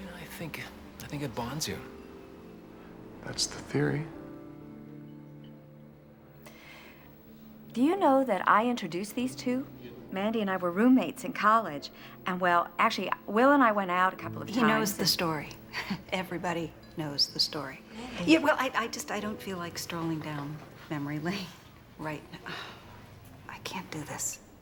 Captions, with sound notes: I think... I think it bonds you. That's the theory. Do you know that I introduced these two? Mandy and I were roommates in college, and, well, actually, Will and I went out a couple of times... He knows the story. (CHUCKLES) Everybody knows the story. Mandy... Yeah, well, I just don't feel like strolling down memory lane right... I can't do this.